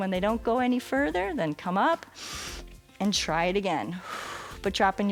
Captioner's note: exhales